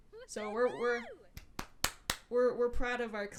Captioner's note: clapping